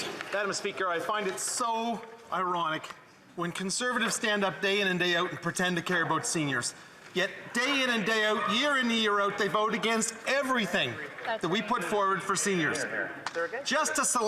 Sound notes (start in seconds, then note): 0.0 applause